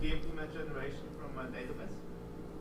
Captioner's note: voiceover